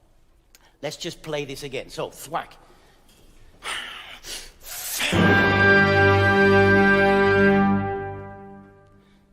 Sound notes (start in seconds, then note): 2.7 playful orchestral music; 2.7 speaking in French